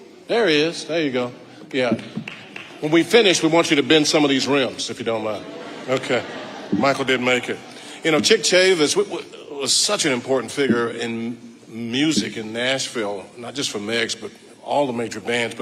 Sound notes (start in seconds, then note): 1.8 audience member clapping; 5.1 audience laughing